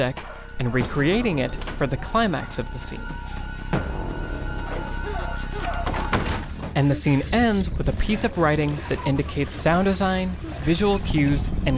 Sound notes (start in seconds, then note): 3.4 suspenseful music; 4.6 dogs barking; 5.5 door bangs shut